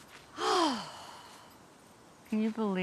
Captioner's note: sighs